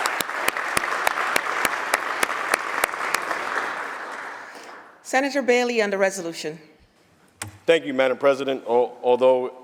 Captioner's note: applause